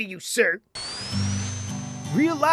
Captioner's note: Spin Dash whooshing